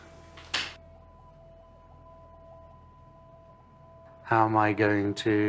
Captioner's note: bells ring quietly